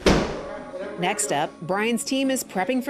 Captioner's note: banging